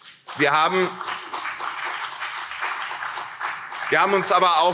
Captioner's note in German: Beifall CDU und SPD